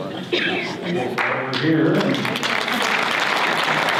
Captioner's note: audience applause